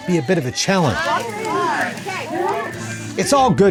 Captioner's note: people talking